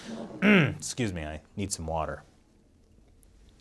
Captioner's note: cough, cough